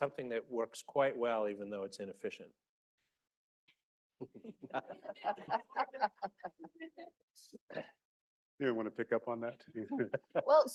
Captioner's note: laughter